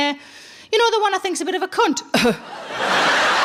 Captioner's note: coughing; audience laughing